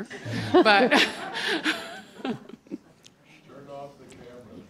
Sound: audience laughing

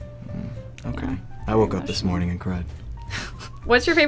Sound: laughs

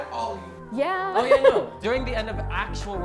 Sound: laughs

